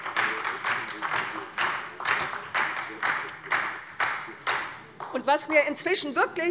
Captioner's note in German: Beifall SPD